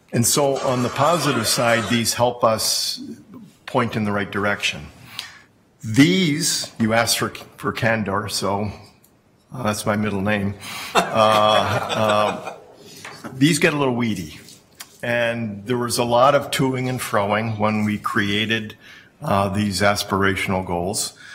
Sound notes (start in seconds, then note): 10.9 laughing